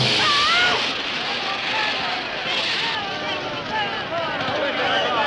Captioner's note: crowd jeering; scream